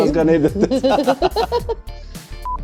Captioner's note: laughter